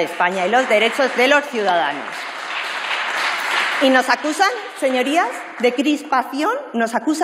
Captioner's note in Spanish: Aplausos